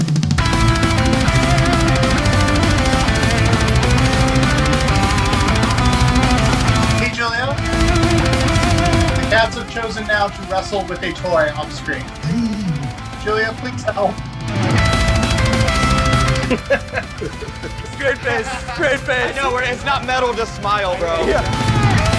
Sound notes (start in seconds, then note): 16.1 laughing